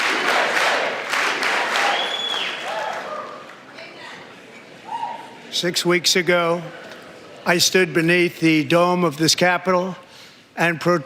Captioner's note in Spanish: aplausos; gritos